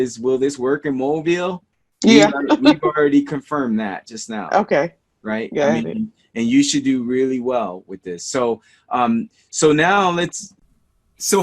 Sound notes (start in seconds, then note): 2.0 laughs